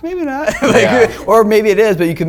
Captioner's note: laughter